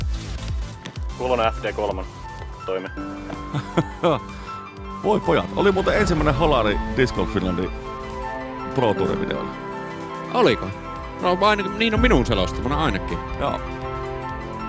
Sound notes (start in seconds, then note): 3.3 hehehehe